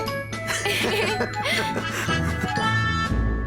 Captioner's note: both laugh